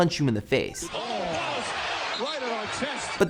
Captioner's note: basketball game noises